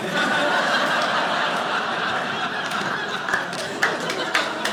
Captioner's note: audience laughing